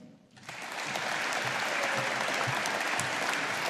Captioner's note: audience applauding